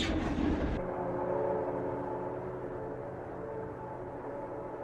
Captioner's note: train horn in distance